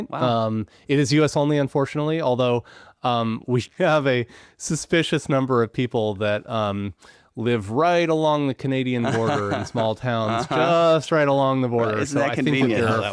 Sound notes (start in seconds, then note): 9.0 laughing